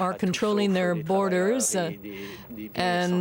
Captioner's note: speaking French